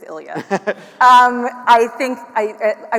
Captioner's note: attendees laughing